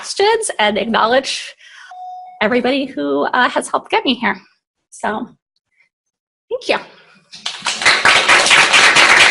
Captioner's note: applause